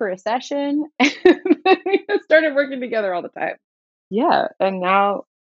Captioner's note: laughter